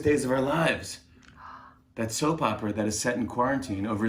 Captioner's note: gasps